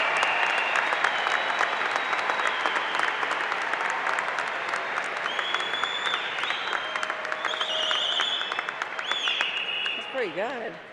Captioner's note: applause